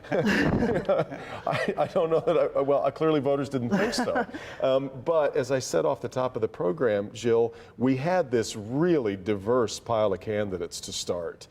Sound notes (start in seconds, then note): 3.6 laughter